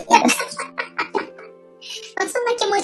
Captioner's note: laughs